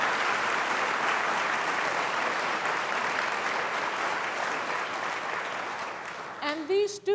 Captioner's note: applause